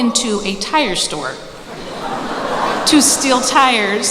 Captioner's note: laughter